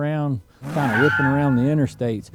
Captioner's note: screeching